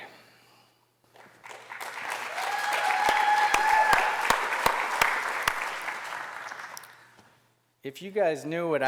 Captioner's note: applause